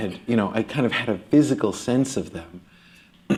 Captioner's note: clears throat